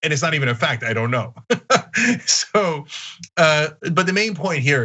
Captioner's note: laugh